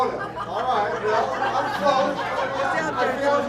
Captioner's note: laughter